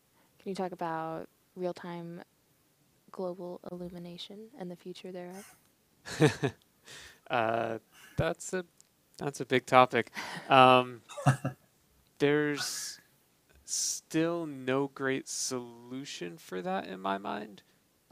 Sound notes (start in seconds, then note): 6.0 laughing; 11.0 laughing